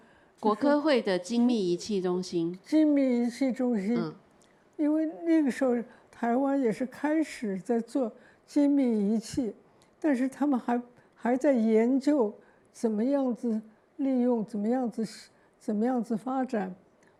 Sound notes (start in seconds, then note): 0.5 Mandarin